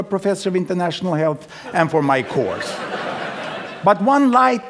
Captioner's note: laughter